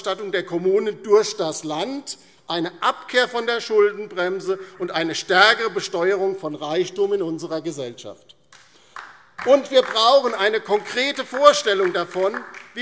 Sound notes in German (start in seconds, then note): 8.5 Beifall DIE LINKE